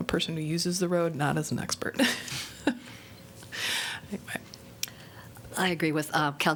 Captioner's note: laughter